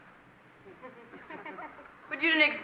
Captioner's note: laughing